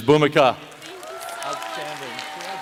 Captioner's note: applause